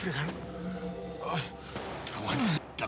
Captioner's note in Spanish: quejidos